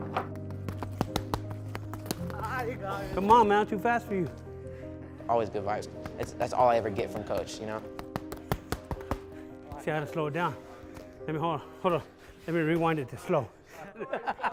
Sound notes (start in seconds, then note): 0.3 pounding; 8.0 pounding; 13.7 laughter